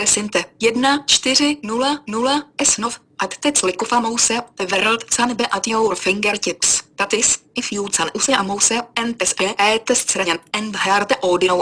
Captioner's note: screen reader reading in a different language